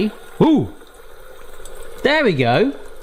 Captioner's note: meat sizzling